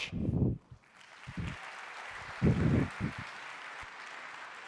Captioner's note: applause